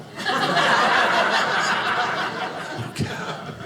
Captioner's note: audience laughing